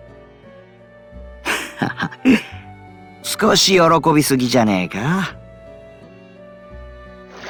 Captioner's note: chuckle